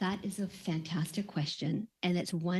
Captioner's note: speaking French